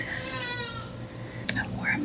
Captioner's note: crying